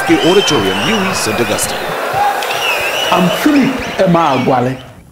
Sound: wild applause and cheering for 22 seconds

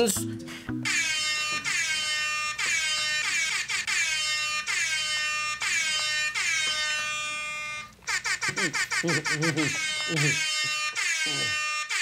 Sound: air horn blasts

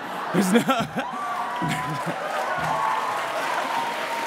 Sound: cheering; laughs

